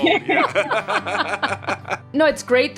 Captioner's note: laughter